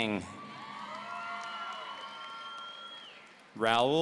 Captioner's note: audience cheering